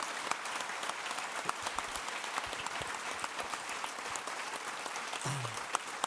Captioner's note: clapping